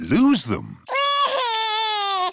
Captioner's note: crying